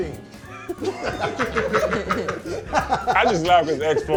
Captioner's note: laughter